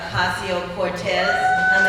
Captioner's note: cheering